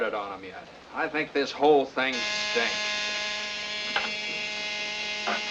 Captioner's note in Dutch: zoemen